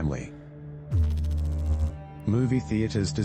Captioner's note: electrical noise